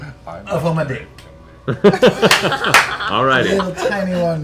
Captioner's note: laughter